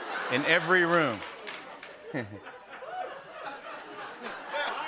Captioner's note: laughter